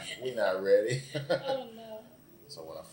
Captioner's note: laughs